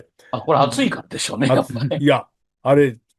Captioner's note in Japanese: 笑い